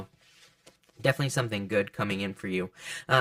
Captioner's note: hands shuffling